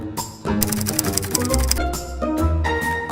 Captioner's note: characters clicking